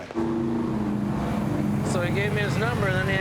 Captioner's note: engine purring